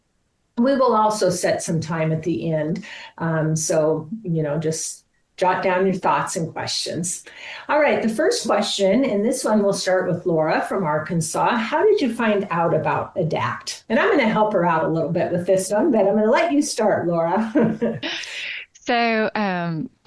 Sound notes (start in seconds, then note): 17.5 chuckles